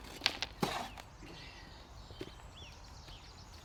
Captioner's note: birds chirping